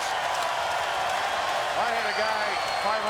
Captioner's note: crowd cheers